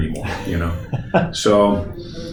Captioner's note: chuckles